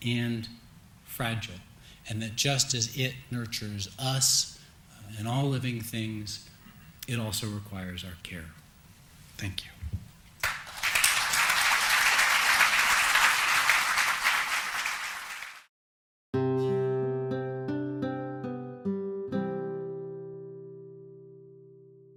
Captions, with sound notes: and that just as it nurtures us and all living things, it also requires our care. Thank you. (audience applauding) (gentle music)